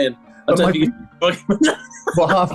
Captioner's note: laughing